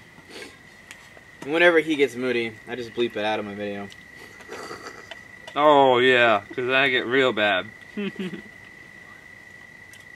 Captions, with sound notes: - Whenever he gets moody, I just bleep it out of my video. (laughs) - Oh yeah, 'cause I get real bad.